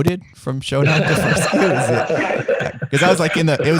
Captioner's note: laughing